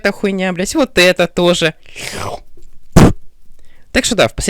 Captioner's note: spit